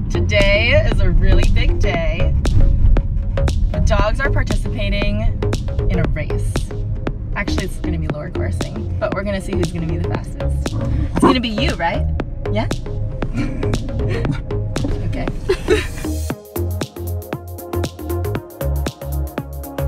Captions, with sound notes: - Today is a really big day. (upbeat electronic music) The dogs are participating in a race. Actually, it's going to be lure coursing, but we're gonna see who's gonna be the fastest. (dog barking) It's gonna be you, right? Yeah? (chuckling) Okay. (upbeat music)